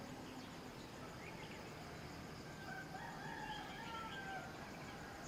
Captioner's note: rooster crows